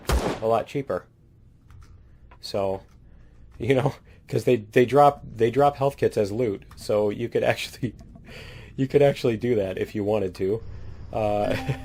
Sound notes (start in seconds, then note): 2.5 laughs; 11.4 laughs